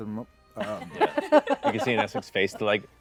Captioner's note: laughter